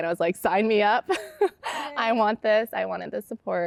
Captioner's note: laughter